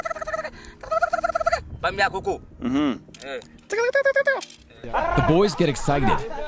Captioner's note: hunter making squirrel sounds